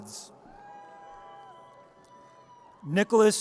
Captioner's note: audience cheers